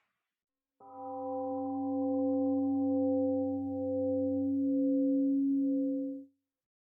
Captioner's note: temple gong rings and fades